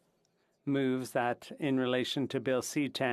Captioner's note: speaking in French